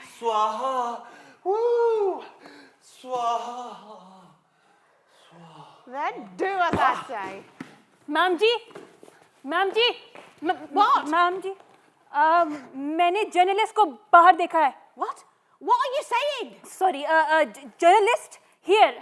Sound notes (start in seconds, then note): 12.9 in Hindi